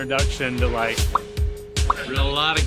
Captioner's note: lips popping